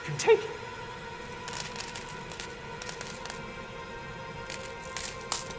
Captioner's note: coins clinking